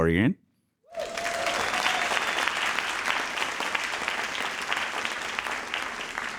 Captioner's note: audience cheering and applauding